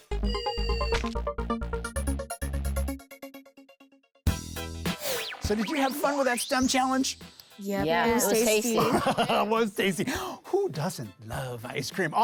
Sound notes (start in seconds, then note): 0.0 techno music; 8.7 laughs